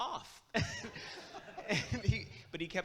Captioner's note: laughs; audience laughs